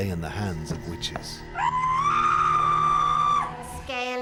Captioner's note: woman screams